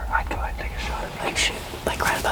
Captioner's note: whispering